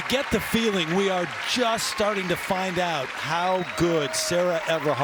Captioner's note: cheers and applause